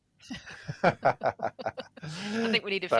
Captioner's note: laughter